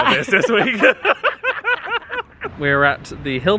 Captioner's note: both laughing